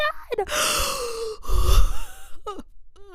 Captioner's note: crying noises